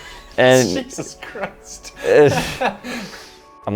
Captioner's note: laughing